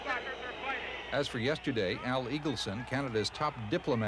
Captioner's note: crowd boos